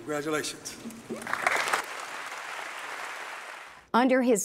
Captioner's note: applause